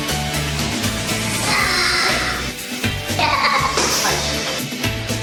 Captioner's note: shouting